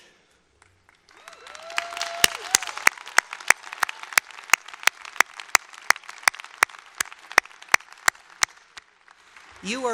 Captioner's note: applause